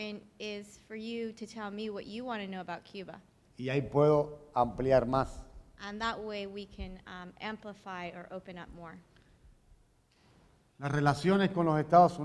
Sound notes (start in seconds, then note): 3.3 speaking in Spanish; 9.1 speaking in Spanish